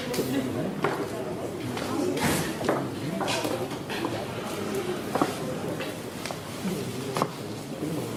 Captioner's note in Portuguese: Barulhos de Sala de Aula